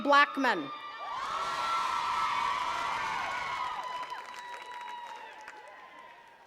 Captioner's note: attendees cheering and clapping